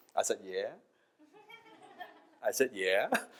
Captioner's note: audience laughs